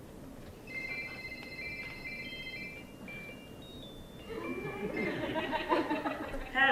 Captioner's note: ringtone of " " plays